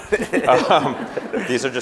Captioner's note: laughing